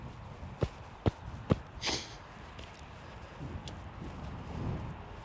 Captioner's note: loud foot steps